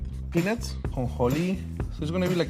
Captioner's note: speaking Spanish